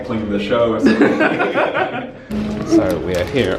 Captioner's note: they laugh